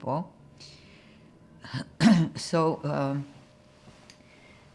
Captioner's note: clears throat